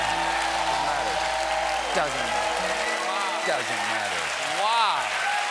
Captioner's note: cheers and applause